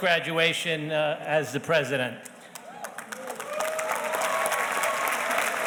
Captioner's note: audience applauding